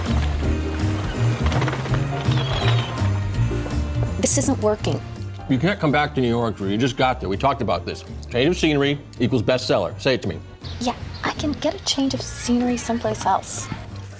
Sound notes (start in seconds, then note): 2.2 seagulls squawking